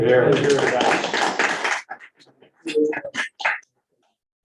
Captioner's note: group applauding